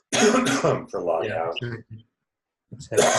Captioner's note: coughing